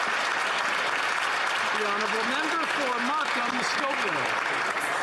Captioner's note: some Applause